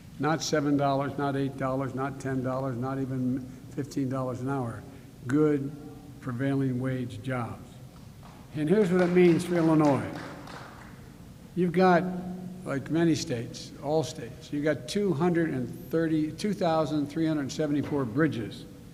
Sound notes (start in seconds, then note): 8.7 applause